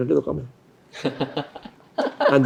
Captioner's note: laughs